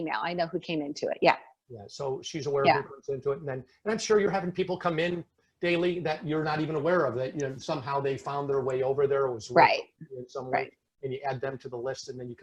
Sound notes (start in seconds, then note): 2.9 speaking faintly